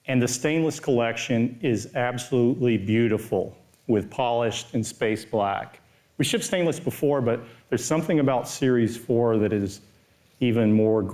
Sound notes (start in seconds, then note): none